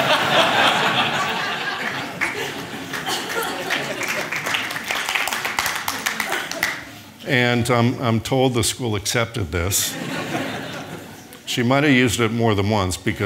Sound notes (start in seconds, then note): 0.0 audience laughing; 3.9 audience applauding